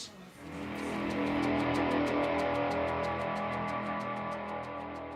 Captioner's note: dramatic sound effect